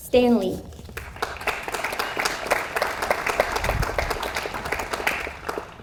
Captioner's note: audience applauds